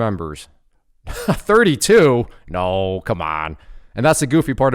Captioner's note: chuckling